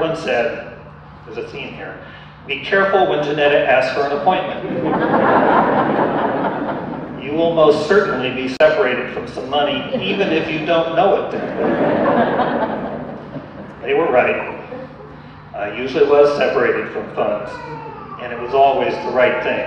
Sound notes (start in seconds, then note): 4.6 audience laughter; 9.7 audience laughter